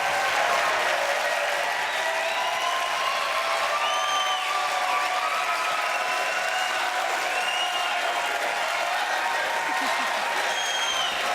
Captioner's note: applause and cheering